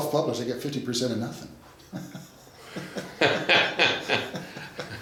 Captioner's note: laughs